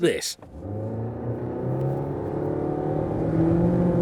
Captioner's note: engine roaring